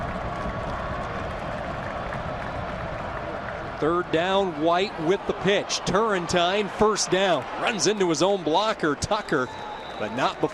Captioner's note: crowd yelling